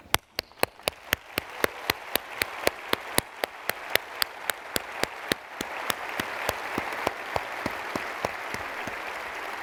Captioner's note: applause